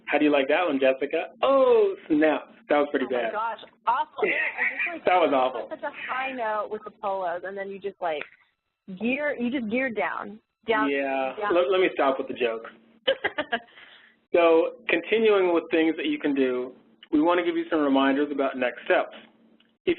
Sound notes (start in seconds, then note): 3.9 laughs; 13.0 laughter